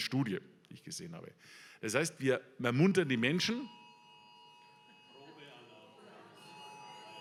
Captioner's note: alarm tone